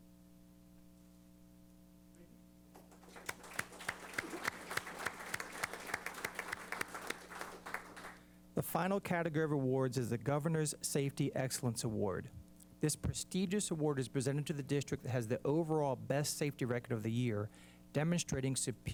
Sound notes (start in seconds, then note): 2.7 applause